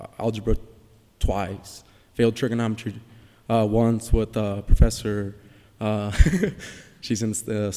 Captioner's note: laughs